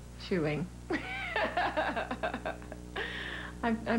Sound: laughs

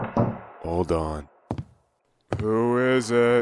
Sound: knocking on door; footsteps

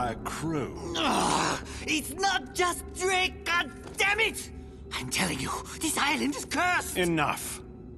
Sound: groans

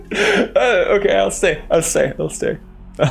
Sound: gasp

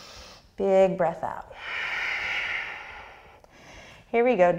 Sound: deep breath

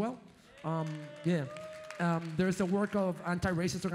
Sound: audience applauds

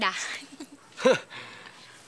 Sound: chuckles; Junkie scoffs

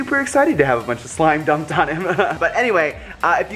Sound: laughs

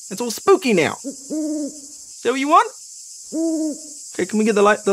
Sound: insects buzz; owl hoots

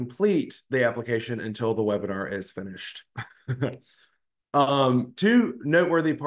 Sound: laughs

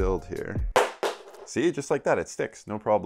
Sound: headseat bearing falls

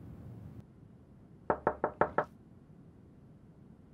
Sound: knocking

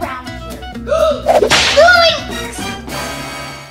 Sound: gasps; dramatic music

